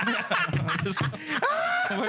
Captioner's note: laughing